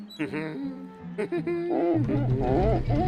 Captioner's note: laughing; pumpkin squeaks